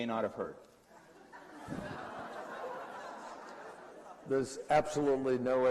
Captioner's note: laughter